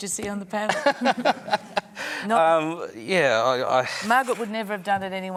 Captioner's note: laughter